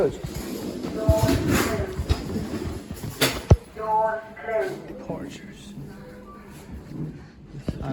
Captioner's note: sound of elevator / lift